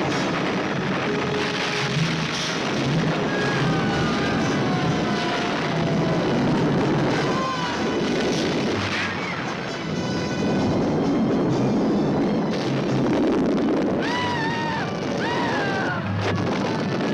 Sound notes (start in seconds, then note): 0.2 rocks crumbling; 12.4 explosion booming; 14.0 both screaming